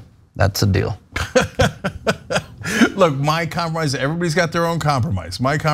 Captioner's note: laugh